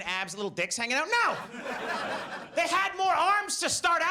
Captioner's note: audience laughs